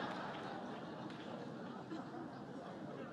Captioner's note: laughter